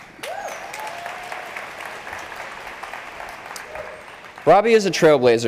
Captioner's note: crowd cheering